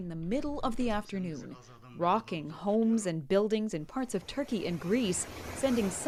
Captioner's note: speaking Foreign Language